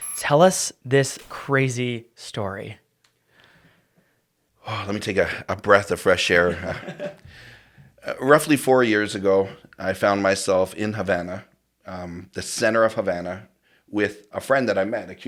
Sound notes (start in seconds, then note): 4.6 sighs